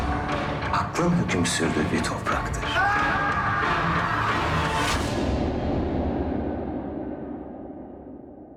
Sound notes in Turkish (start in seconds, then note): 2.7 dehşetle haykırır